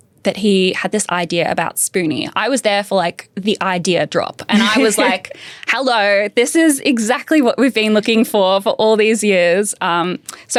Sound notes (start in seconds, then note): 4.5 laughs